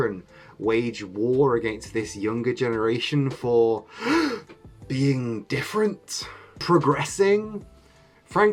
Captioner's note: gasp